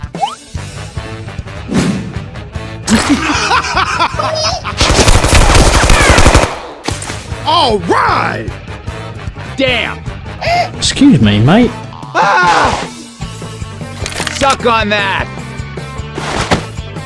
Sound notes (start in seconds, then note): 2.8 maniac Laughter; 4.8 barrage fire; 12.1 surprised